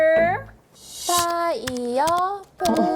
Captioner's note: typing sounds